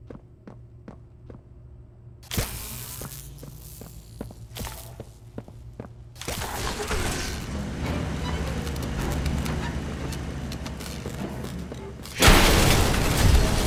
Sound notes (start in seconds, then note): 0.2 footsteps; 6.8 thunder